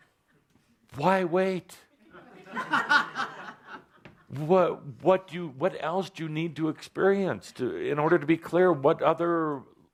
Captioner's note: laughter